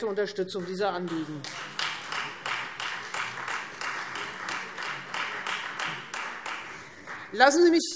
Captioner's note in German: Beifall Freie Demokraten